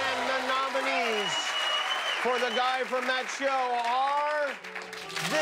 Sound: cheers and applause

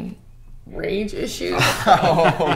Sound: Robert and Alex chuckle

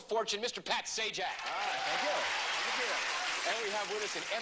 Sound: applause

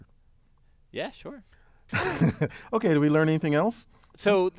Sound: laugh

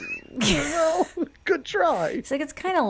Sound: laughs

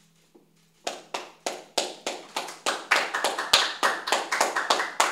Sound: applause

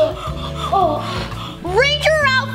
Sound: gasps loudly

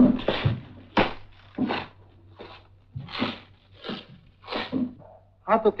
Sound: shoes squeaking

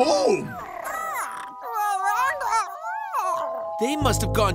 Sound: squeaking

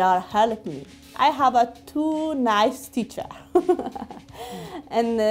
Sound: chuckling

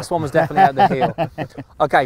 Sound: laughing

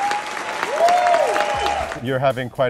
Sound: audience cheers

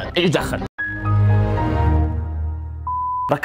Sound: Windows shut down sound

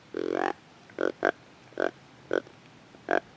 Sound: hunter calls

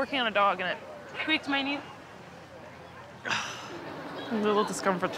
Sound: exhales

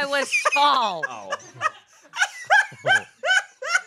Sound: laughs

